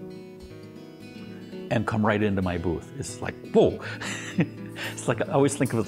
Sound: laughs

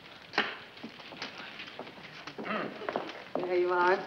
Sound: pencil thuds

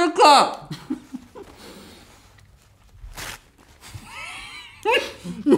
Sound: laughs

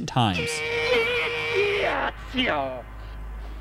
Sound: man yelling

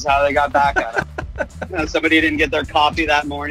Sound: laughs

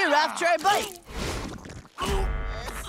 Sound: gagging

